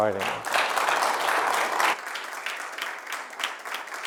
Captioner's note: applause